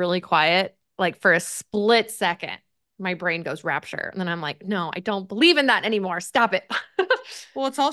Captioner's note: laughs